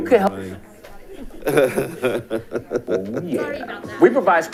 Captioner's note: board members laughing